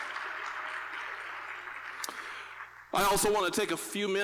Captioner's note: applause